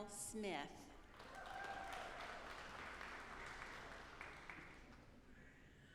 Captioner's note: audience applauding